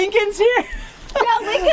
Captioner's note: laughs